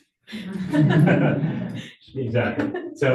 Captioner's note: audience laughing